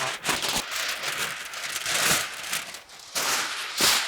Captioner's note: paper crunching